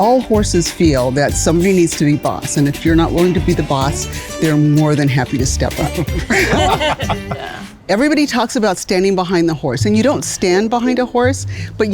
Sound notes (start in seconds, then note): 5.7 group laughs